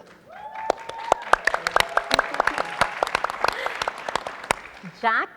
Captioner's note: audience applauding